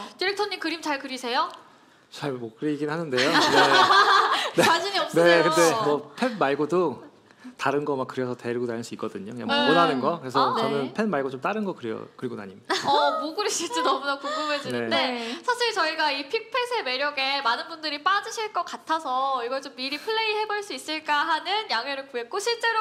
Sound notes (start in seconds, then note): 3.2 laughter